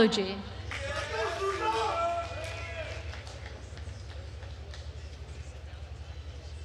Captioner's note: attendees cheering and applauding